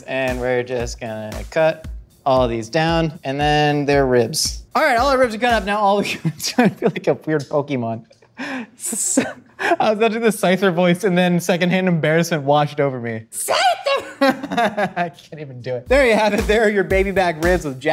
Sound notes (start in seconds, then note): 6.1 laughing; 13.4 exclaims